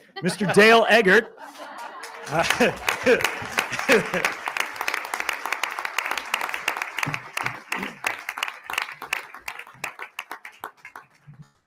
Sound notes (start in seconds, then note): 1.0 everyone laughing; 1.8 attendees applauding